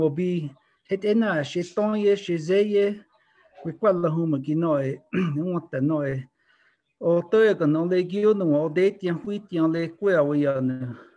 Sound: Speaking in Towa

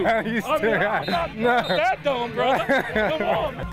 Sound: laughs

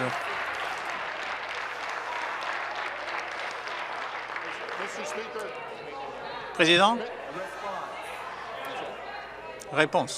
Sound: some Applause

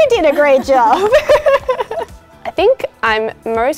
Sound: laughs

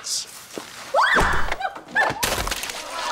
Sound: screams; crowd laughs

